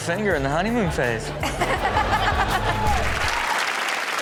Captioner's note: Chanel and audience laugh; audience claps